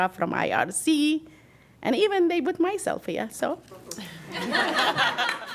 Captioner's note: applause; laughter